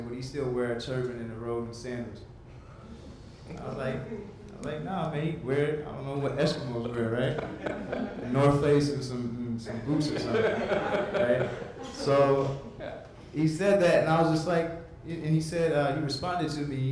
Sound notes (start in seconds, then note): 7.1 audience laughs; 9.7 interviewer laughs